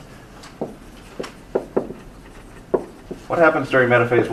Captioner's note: marker thudding